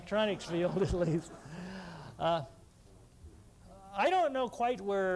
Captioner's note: laughter